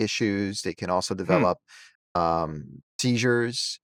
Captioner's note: hums